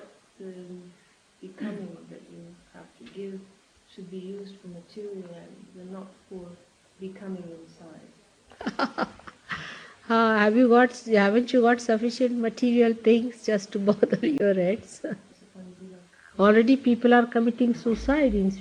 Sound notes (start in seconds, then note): 8.5 Shri Mataji laughs